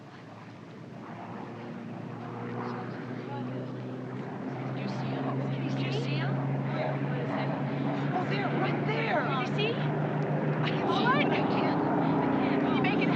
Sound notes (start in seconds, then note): 1.3 airplane engines rumbling